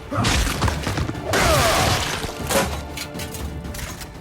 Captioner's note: body splattering